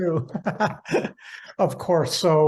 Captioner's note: laughing